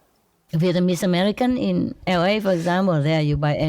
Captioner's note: Vietnamese